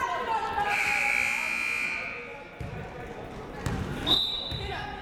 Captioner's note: siren buzzing